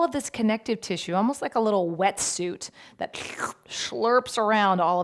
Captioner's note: mouth slurping